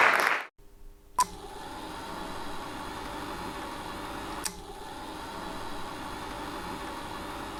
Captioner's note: audience applauding; film beeping; film whirring